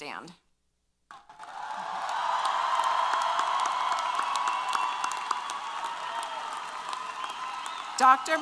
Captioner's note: applause & Cheers